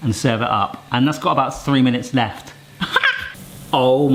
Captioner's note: laughs